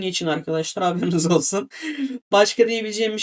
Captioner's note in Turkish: kahkaha